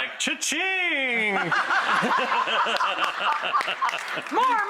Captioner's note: laughter